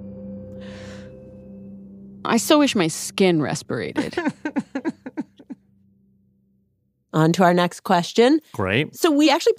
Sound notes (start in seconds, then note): 3.9 laughs